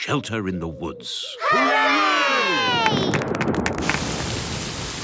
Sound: thunder

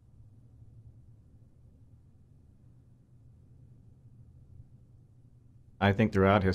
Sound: silence

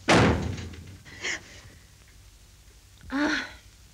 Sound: door bangs; gasps

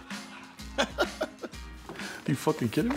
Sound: chuckles

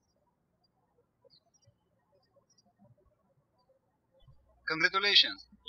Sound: birds chirping

